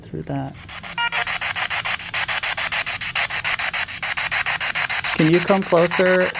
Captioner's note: spirit box sound